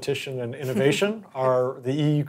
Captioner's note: chuckling